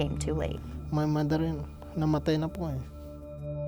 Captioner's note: speaks in foreign language